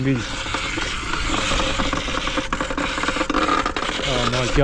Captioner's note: unhappy bike sounds